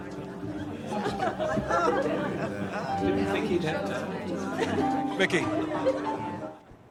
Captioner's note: patrons chattering; patrons laughing